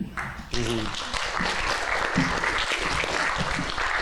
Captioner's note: applause